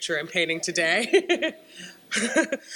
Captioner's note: laughs